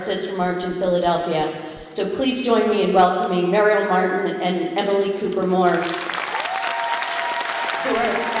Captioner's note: applause